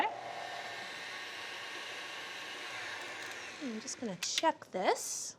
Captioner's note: mixer whirs